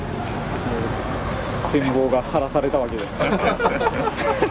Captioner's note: laughs